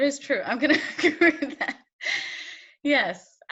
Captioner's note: laughs